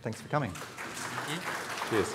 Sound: audience clapping

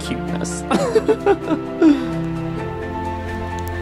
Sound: laughing; happy music

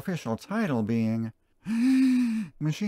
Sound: deep breath

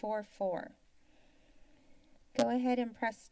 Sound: silence

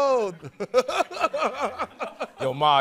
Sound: laughter

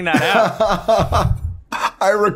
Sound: laughter

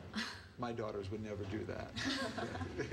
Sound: laughter

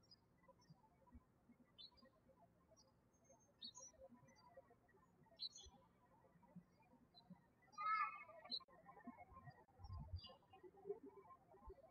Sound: birds chirping

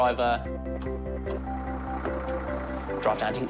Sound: engine rumbles

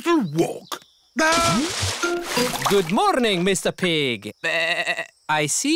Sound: bleats

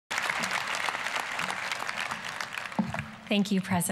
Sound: applause

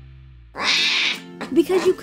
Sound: Dash crying

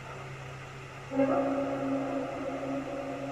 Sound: female voice

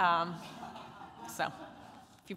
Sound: laughter

